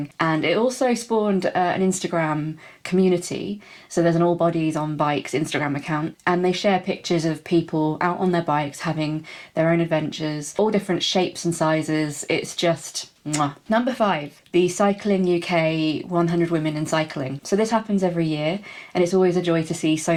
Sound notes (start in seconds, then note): 13.3 mwah